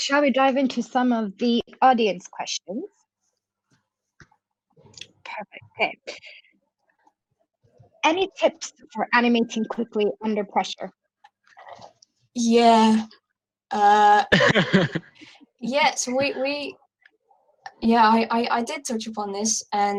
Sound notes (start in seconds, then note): 14.3 laughs